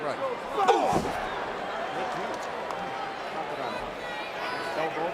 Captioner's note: Tazz exclaims